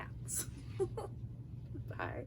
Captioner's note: giggling